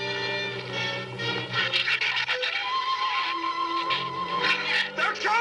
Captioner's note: shrews chattering